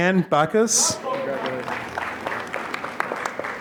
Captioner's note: applause